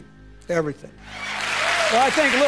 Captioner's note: audience applause